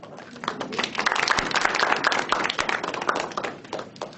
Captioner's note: people applauding